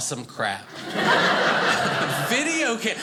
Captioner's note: audience laughing